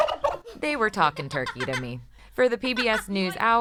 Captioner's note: turkey gobbles